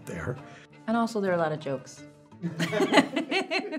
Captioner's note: laughs